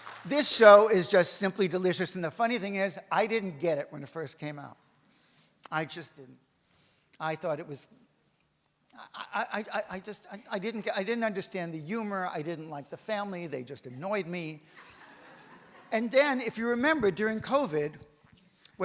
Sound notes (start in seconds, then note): 0.0 audience applauds; 14.8 audience laughs